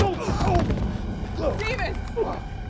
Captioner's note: groans